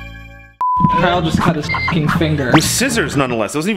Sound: beep

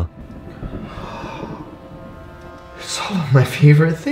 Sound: gasping

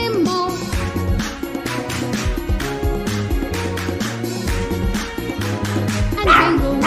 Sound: clap – Clap – Clap – Clap – Clap

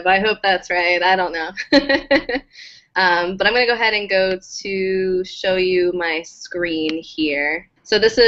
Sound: laugh

